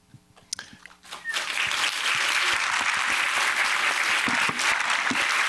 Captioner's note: audience clapping